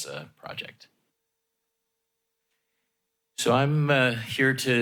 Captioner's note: pause